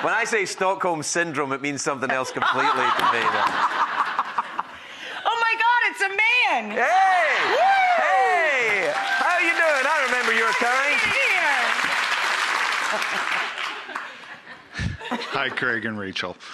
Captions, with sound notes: When I say Stockholm Syndrome it means something else completely to me. (laughter) Oh my god it's a man! Hey! How are you doing? I remember your kind! Hi Craig and Rachael.